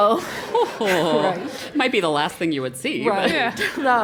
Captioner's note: laugh